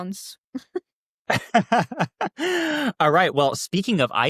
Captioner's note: laughs; chuckles